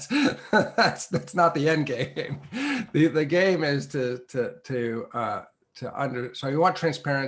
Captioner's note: laugh